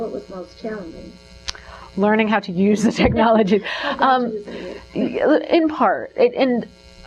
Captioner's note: giggling